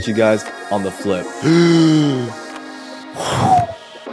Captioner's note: gasp